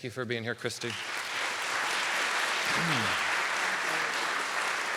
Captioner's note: audience applauding